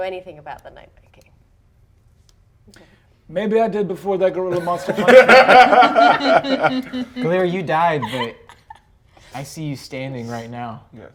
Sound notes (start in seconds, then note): 4.5 laughter